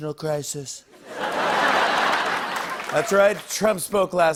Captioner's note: normal voice; laughter